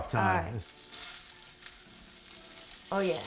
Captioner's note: pan sizzling